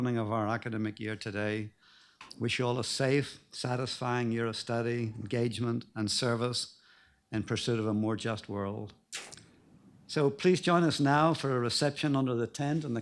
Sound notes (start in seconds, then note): none